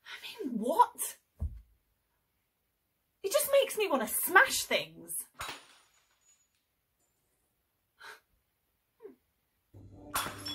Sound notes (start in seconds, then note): 5.4 glass smashes in another room